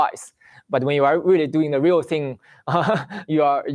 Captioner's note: laughs